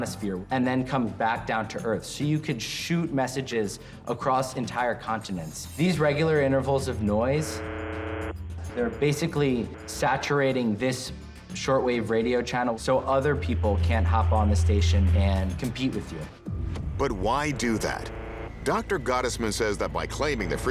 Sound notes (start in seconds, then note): 7.4 static buzzing